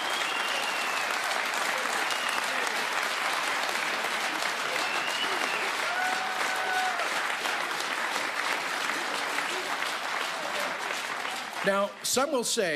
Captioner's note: cheering and Applause